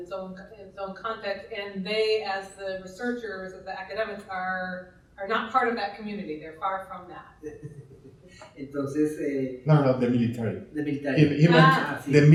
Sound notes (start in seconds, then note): 8.8 speaking in Spanish